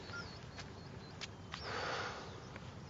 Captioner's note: beeps; sighs